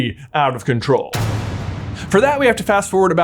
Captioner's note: ominous crashing